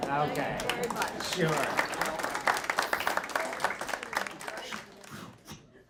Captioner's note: audience clapping